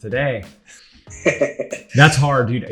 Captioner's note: laughter